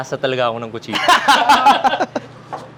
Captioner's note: laughter